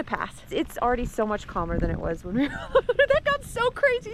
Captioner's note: laughs